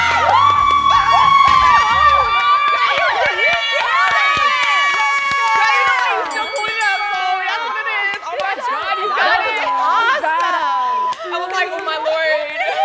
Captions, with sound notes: (excited cheering) (bell dings) (excited chatter) - I was like, "Oh my Lord!"